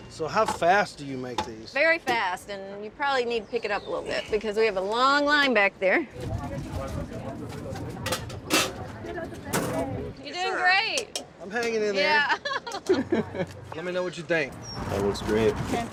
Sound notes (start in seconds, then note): 6.4 people chattering